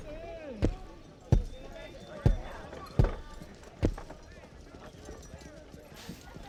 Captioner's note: door slams; footstep thudding; Murphy murmuring; people chattering